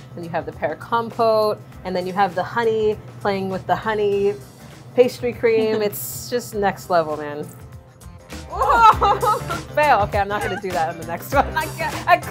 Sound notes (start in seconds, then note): 7.0 laughs